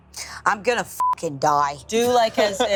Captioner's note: beep